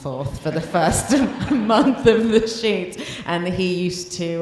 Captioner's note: laughs